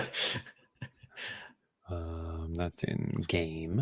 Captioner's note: chuckling